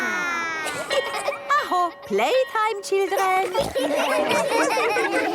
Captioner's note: school bell